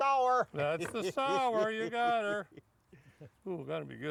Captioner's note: chuckling